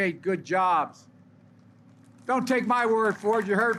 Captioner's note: applause